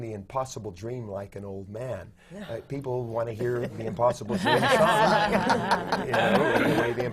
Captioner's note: laughter